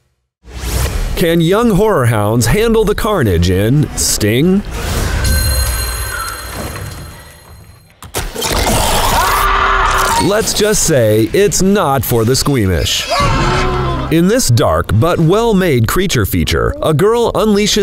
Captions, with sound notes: Can young horror hounds handle the carnage in Sting? [spider growls] [woman screaming] Let's just say it's not for the squeamish. [man screaming] In this dark but well-made creature feature, a girl unleashes